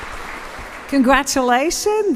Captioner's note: applause